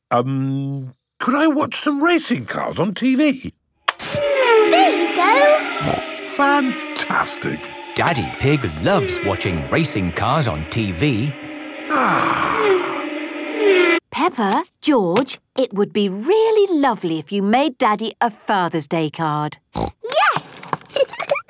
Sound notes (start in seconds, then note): 6.0 snorting; 11.8 contented sigh; 20.9 giggling